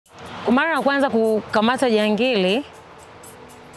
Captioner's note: she speaks her language